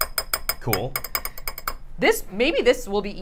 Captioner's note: bowl clinking